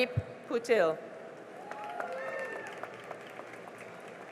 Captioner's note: cheering and applause